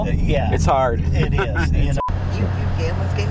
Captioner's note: laughs